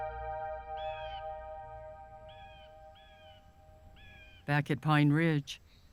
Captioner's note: bird cawing